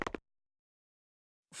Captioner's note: silence